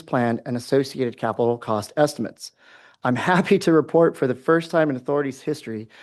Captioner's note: chuckles